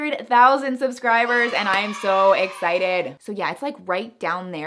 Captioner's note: kids shout, "Yay!' in background